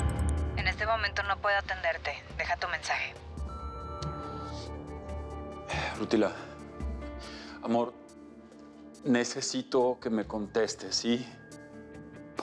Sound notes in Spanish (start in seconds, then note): 3.4 Bip